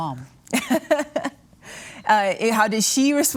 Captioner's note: chuckles